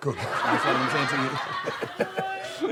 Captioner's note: audience laughs